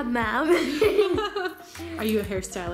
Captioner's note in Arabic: يضحك